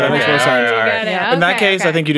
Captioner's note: all laughing